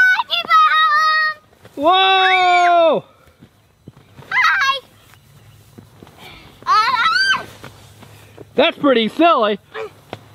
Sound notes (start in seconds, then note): 1.8 screaming; 6.5 yelling